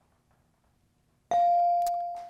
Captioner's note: buzzer dings